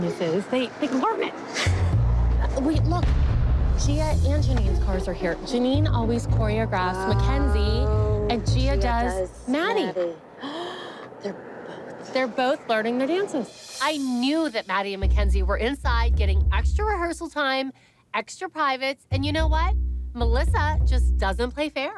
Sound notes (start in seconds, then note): 10.4 gasps